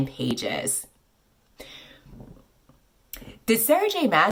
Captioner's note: gasp of realization